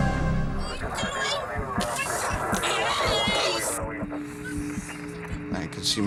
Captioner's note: woman screaming incoherently